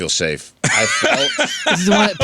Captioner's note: laughing